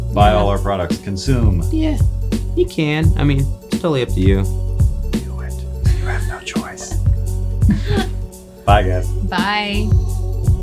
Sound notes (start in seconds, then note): 7.6 all laughing